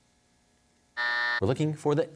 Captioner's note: buzzer sounds